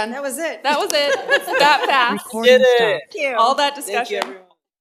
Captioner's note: laugh